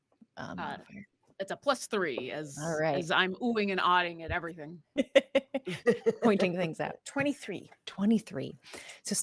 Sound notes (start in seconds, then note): 4.9 laughs